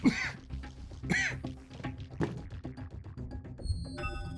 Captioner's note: David coughing